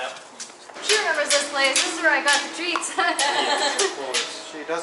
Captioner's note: laughter